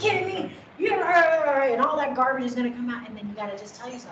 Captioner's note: murmuring